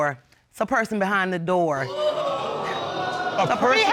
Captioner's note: audience exclaims